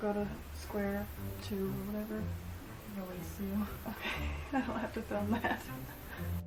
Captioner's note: laughing